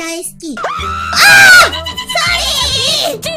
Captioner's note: scream